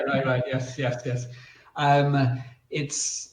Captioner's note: laughs